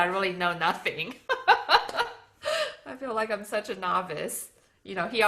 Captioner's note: laughs